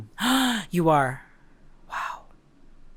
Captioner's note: gasp